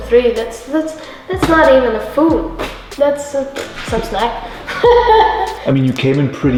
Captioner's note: laughing